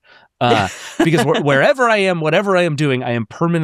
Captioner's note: laughs